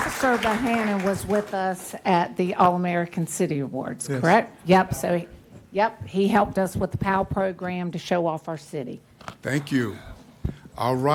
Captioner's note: applause